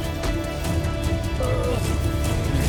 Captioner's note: music swells; growls; music fades